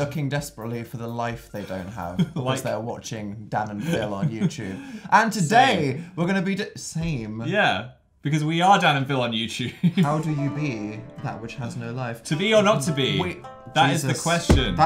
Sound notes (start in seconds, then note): 9.5 laughs; 10.1 harp sound effect